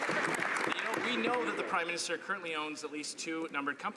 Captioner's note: some Applause